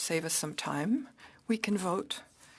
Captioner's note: speaking French